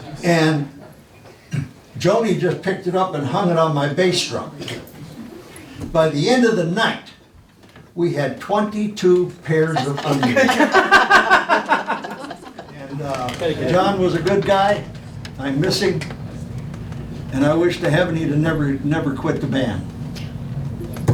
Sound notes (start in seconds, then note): 0.0 laughing; 9.6 laughing